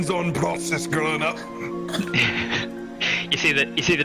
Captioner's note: laughs